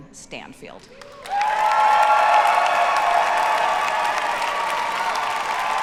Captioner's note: audience cheers and applauds